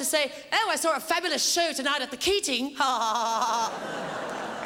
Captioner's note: laughs